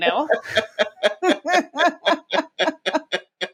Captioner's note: both laughing